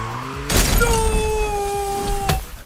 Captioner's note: screaming